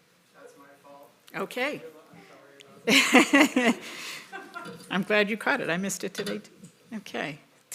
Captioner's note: laughter